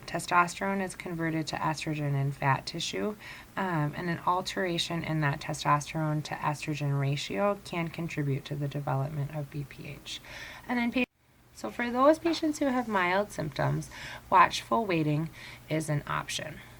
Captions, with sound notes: testosterone is converted to estrogen in fat tissue and then alteration in that testosterone-to-estrogen ratio can contribute to the development of BPH. And then-- (audio cuts off) So for those patients who have mild symptoms, watchful waiting is an option.